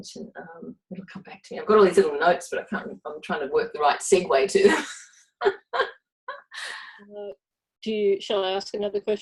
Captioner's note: laughs